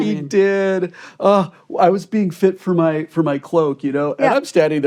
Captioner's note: sighs